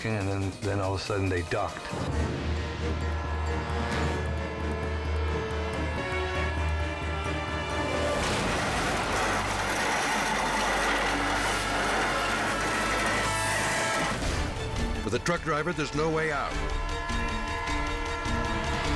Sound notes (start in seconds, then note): 4.4 ominous music; 8.1 trailer crashing